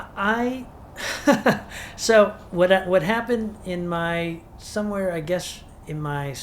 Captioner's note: chuckles